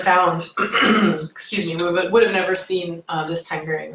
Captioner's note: clears throat